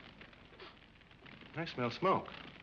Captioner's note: sniffing